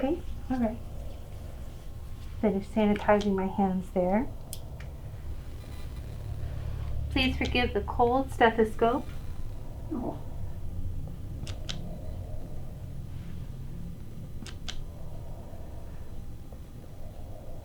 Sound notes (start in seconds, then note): 11.4 clicking